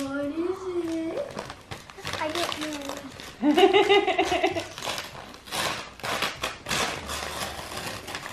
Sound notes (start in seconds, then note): 0.0 paper ripping; 3.4 laughs; 5.0 paper ripping